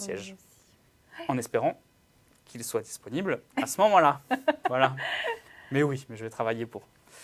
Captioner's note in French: rires